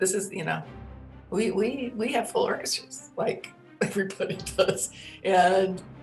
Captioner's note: laughing